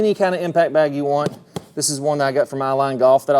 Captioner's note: hand tapping